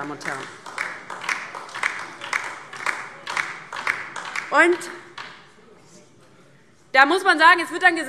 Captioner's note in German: Beifall DIE LINKE